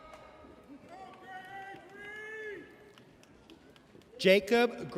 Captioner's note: person cheering